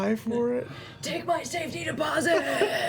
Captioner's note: whispering